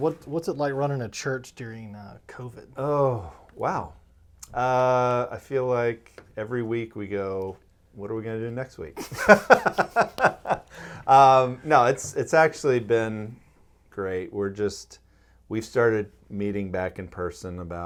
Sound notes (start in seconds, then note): 9.0 laughing